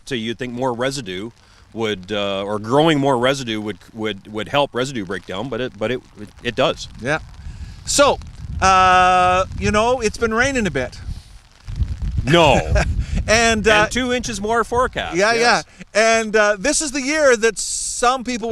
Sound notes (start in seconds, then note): 10.5 sarcasm